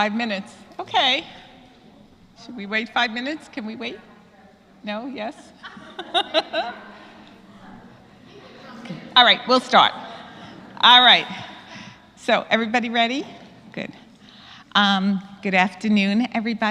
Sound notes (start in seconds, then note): 5.3 laugh